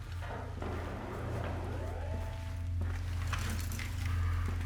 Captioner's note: clanging continues; distant beeping